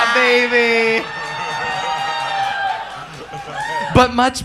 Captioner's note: audience cheers